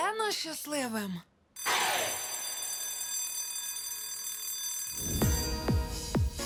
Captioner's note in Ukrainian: лунає дзвінок